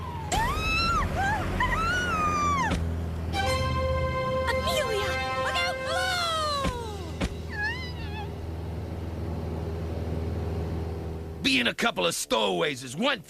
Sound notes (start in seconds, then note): 0.1 screaming; 7.5 whimpering